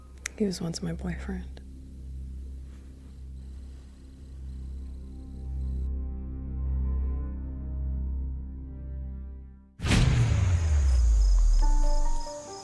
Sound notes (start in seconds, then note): none